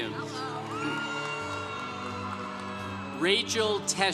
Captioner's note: congregation cheering